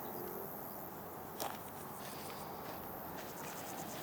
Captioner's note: nature sounds